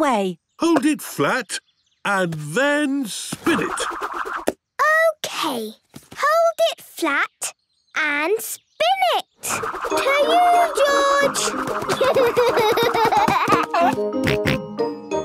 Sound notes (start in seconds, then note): 11.8 giggling; 13.4 snorting